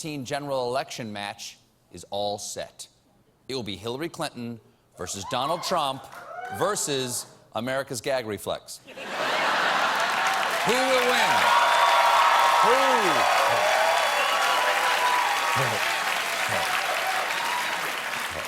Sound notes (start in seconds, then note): 6.8 cheers and applause